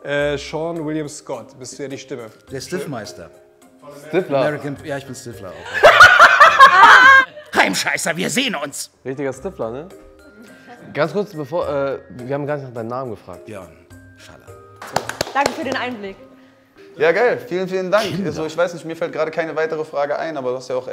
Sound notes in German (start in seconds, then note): 5.6 Lachen